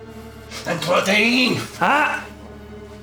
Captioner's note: Koch speaking German